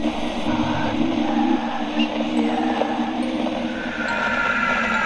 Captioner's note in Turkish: ürkütücü fısıltılar; korkutucu sesler